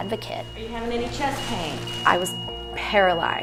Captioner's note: voiceover